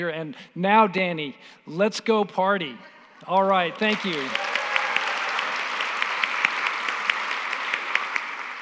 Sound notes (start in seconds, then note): 3.6 applause